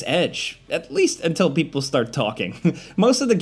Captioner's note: chuckles